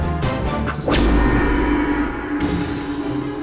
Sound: gong sound cut by talented editor

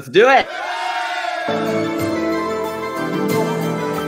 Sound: cheering

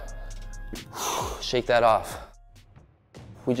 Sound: exhales; upbeat music

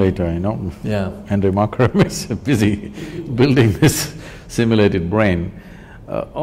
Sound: both Laugh

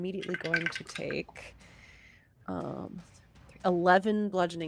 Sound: dice clatter

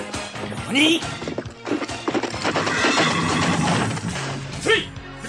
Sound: SFX: horse galloping

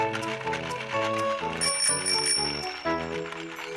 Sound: bright music playing; bike bell ringing

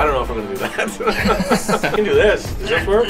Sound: laughs

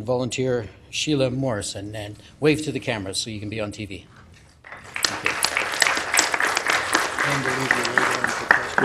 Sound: applause

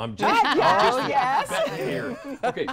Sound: laughter

